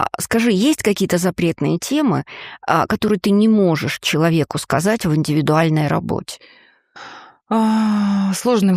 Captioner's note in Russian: вздыхает